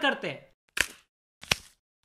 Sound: lil crunch

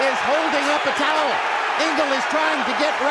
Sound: crowd roaring

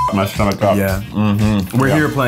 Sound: beep

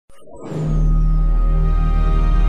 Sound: Xbox 360 startup sound

